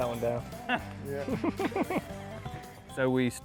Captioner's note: laughs